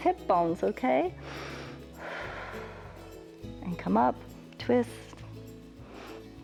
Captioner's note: inhales and exhales